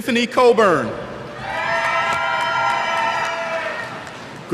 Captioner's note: cheers